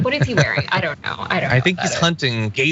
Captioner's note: laugh